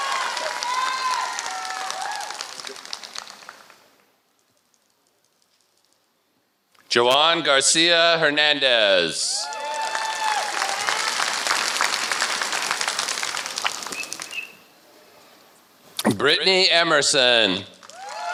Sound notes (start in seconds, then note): 3.1 applause; 9.4 applause